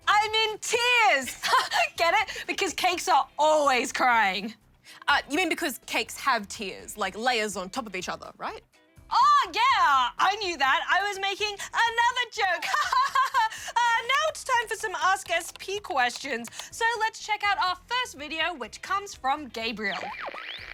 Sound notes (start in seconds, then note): 1.2 laughs